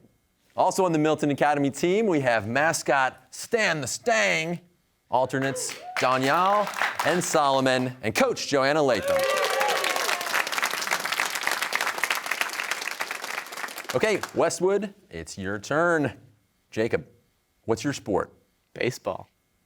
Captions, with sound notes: Also on the Milton Academy team we have mascot Stan the 'Stang, alternates Daniyal and Solomon, and coach Joanna Latham. (cheers and applause) Okay, Westwood, it's your turn. Jacob, what's your sport? - Baseball.